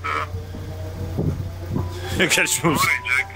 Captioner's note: sound of electric train